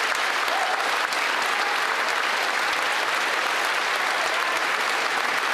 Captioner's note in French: applaudissements